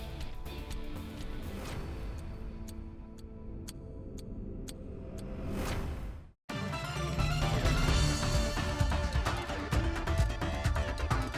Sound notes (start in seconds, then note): 0.1 timer ticking; 6.5 upbeat music